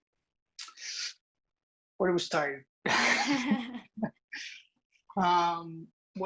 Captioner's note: laughter